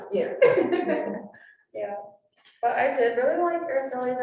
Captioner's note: all laughing